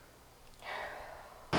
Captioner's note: sigh